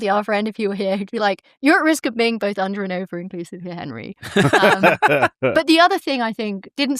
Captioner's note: laughter